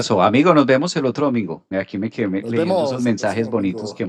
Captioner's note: laughs